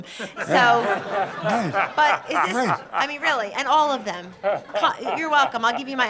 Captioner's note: audience laughter